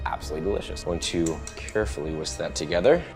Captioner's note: whisk tapping